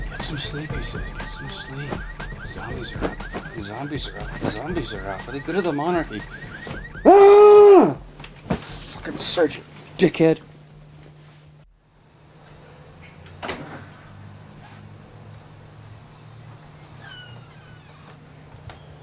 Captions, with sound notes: Get some sleep, he says, get some sleep. Zombies are out, zombies are out, zombies are out, for the good of the monarchy. (screaming) Fucking Serge! Dickhead. (door screeching)